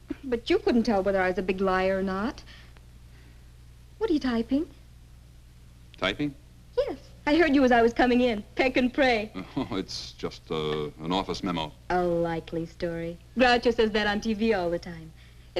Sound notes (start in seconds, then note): 9.5 chuckles